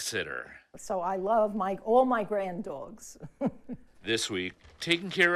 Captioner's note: laughs